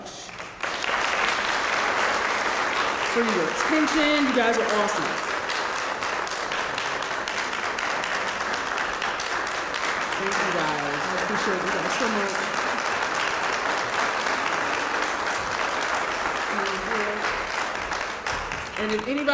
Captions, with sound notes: >> [APPLAUSE] >> For your attention. You guys are awesome. >> [APPLAUSE] >> Thank you guys, I appreciate that so much. And if anybody has questions to throw at me you can too.